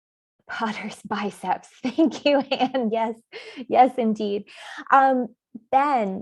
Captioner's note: laughs